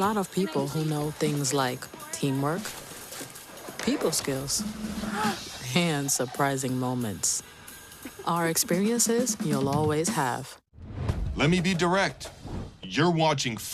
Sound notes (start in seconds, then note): 5.0 gasp